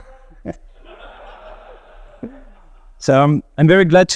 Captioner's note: people laughing